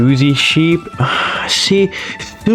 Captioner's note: inhales Oxygen